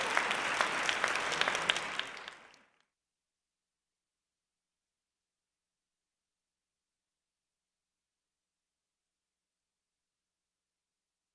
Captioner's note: applause